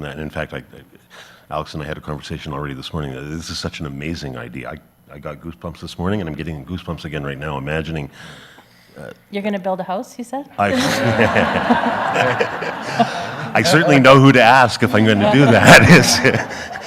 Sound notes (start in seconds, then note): 10.7 everyone laughs